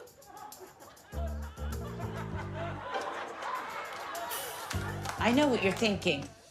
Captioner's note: audience laughing